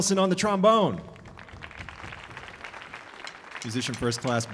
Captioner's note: audience applauding